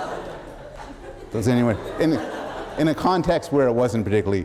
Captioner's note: laughter